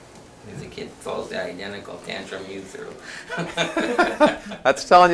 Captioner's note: laughs